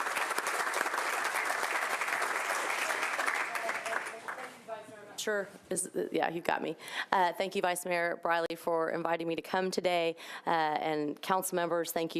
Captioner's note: applause